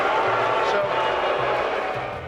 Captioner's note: audience cheering and jeering